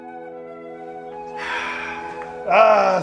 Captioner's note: sigh